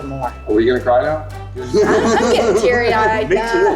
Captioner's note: group laughs